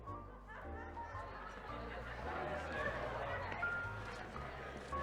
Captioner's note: attendee laughing